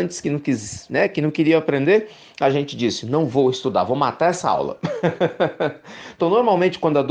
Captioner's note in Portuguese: risos